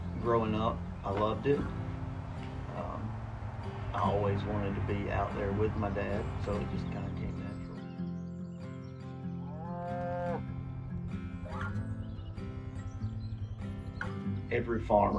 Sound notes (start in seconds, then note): 9.4 cows mooing